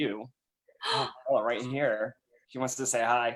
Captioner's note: gasp